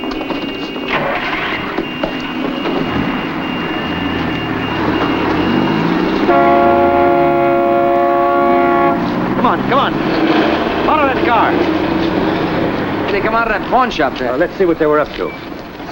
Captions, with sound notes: [CAR ENGINE STARTS] Come on. Come on. Follow that car. They come out of that pawn shop there. let's see what they were up to.